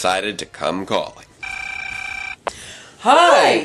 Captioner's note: telephone